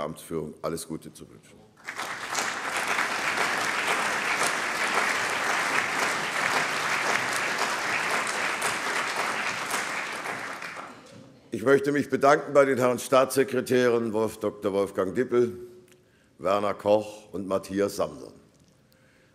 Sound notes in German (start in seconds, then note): 3.8 Allgemeiner Beifall